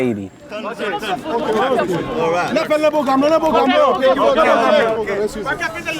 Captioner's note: crowd speaking Creole